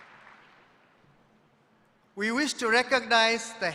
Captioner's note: applause